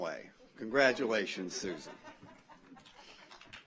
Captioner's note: audience laughs; audience applauds